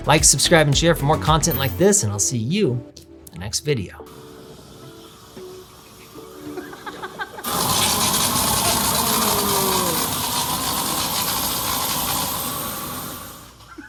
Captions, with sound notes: Like, subscribe, and share for more content like this, and I'll see you the next video. (gentle music) (flame thrower hissing) (person laughing) (flame thrower roaring)